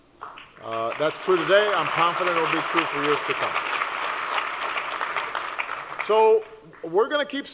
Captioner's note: applause